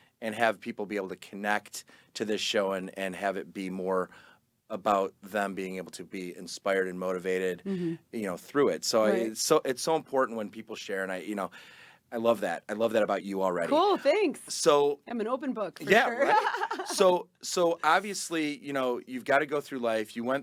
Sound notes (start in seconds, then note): 15.8 laughing